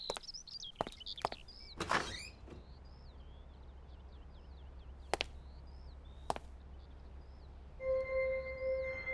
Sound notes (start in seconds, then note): 1.7 Door opening